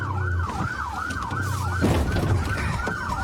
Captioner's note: bangs